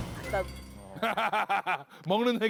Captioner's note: phahahah